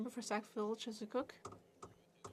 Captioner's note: speaking French